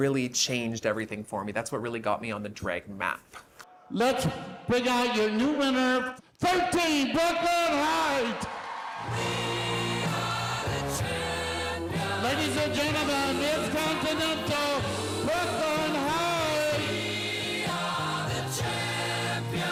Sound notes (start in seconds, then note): 10.5 cheers and Applause